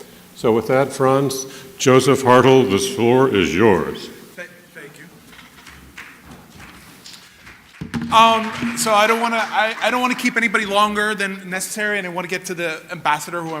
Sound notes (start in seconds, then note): 7.1 applause